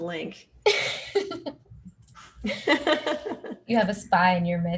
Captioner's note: both laugh